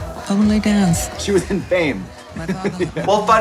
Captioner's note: chuckles